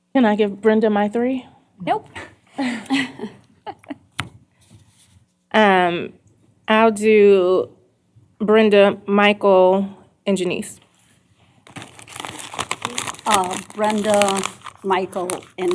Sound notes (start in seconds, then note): 2.6 laughter